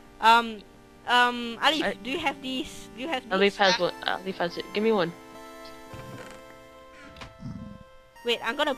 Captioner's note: zombie Growling